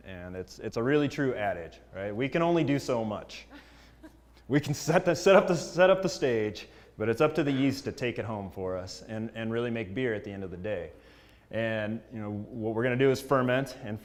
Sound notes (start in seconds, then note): 3.5 laugh